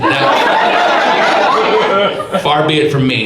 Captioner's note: audience laughs